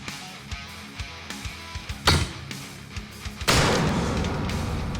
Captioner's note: chopping